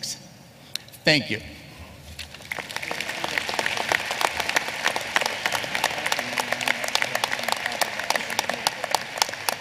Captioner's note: applause